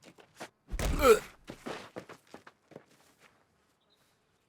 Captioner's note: punch thudding